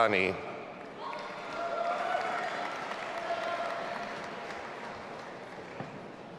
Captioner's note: audience applauding and cheering